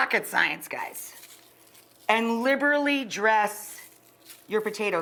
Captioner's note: spices crunching